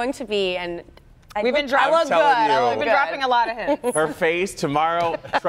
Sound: laughter

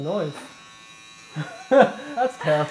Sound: laughing

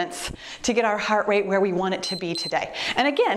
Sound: timer beeps

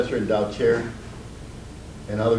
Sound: none

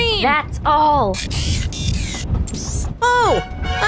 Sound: electronic whirring noise

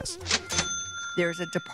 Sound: cashier cha-chinging

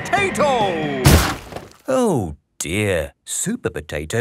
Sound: crashes

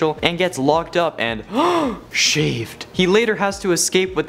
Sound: gasp

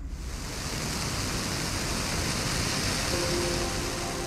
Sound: sprinkler spraying; peaceful music

